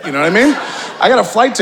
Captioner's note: audience laughing